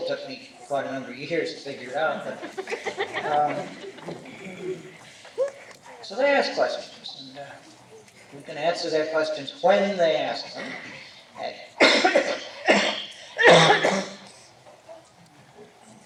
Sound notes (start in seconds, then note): 2.3 laughter; 11.7 coughs